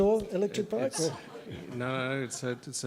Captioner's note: laughter